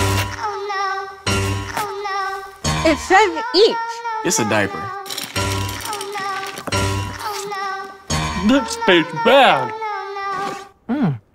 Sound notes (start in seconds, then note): 5.0 litter jingles in bowl